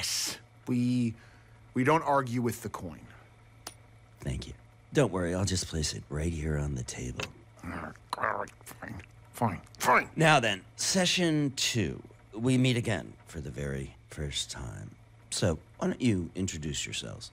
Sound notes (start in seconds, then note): 7.6 grumbles